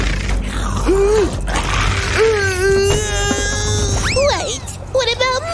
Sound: screaming

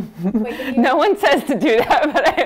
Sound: laughs

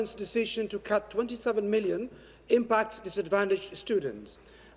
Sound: none

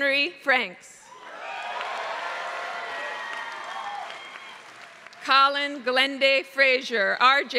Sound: applause

